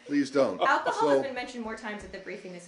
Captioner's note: laughter